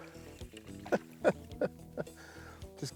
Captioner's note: laughs